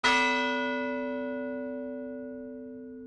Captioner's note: bell ringing